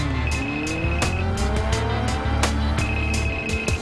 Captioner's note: phone ringing